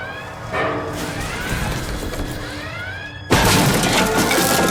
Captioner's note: rumbling sounds